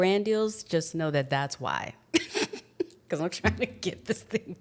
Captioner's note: laughs